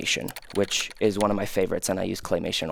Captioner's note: computer keys clicking